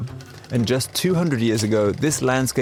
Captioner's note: projector whirring